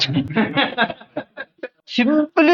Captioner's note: laughs